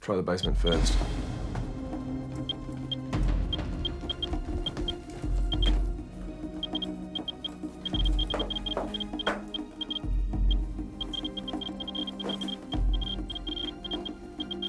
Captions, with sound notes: - Try the basement first. (dramatic music) (Geiger counter beeping)